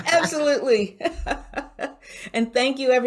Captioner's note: both laugh